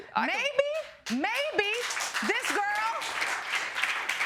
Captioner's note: audience clapping